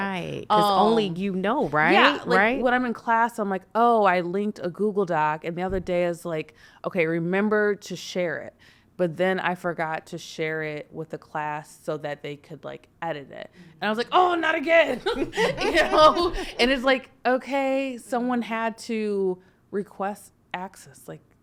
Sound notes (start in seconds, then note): 14.8 laughing